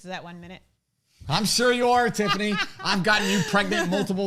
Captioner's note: laughs